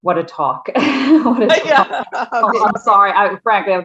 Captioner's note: all laughing